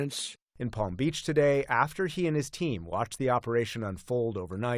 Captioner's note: voice-over